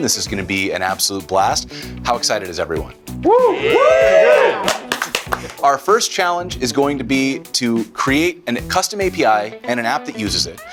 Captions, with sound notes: This is gonna be an absolute blast. How excited is everyone? (cheering) (clapping) Our first challenge is going to be to create a custom API and an app that uses it.